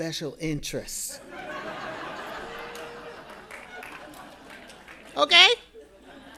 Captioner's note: audience laughing